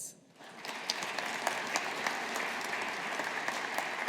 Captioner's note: audience applauding